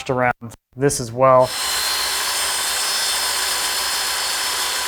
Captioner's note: equipment whirring